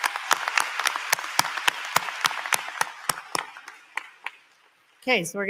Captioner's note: applause